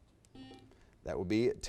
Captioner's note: buzzer beeps